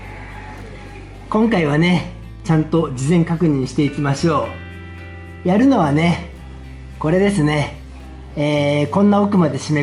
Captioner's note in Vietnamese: cười